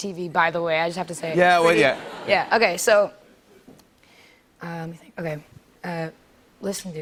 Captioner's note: laughter